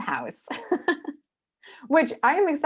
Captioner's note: laughing